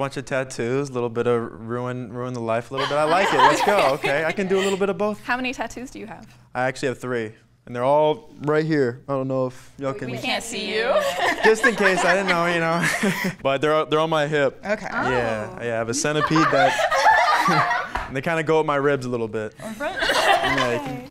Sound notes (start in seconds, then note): 15.9 women laugh